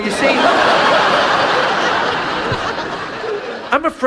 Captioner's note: audience laughs